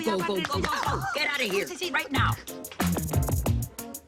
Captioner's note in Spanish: Grito